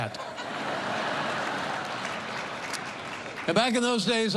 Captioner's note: laughter